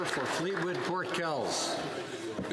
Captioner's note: some Applause